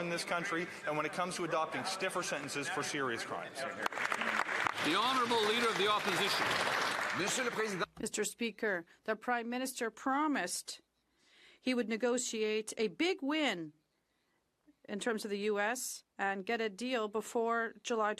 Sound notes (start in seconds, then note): 11.4 speaking French